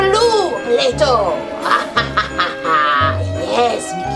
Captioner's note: laughs evilly